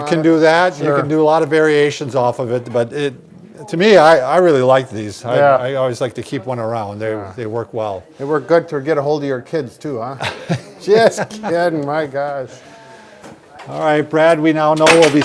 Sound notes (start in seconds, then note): 10.2 laughs